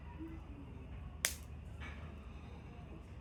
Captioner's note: fire crackling